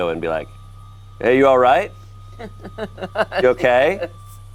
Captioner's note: laughs